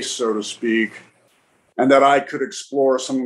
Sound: none

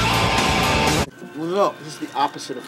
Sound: caveman noises

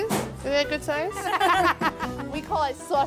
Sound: laughs

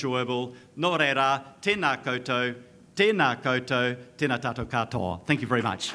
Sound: speaks in a foreign language

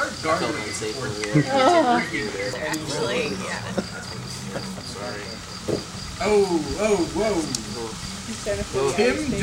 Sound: disgusted moan

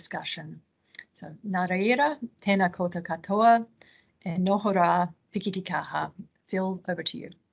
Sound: speaking in te reo Māori

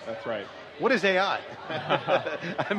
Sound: laughs

